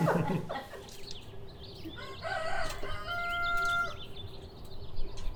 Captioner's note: birds chirping; rooster crowing